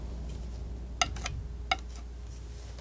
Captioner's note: tapping